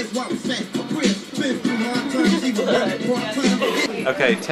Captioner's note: laughing